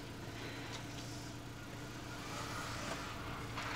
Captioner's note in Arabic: تنهد